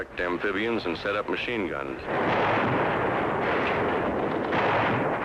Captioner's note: guns firing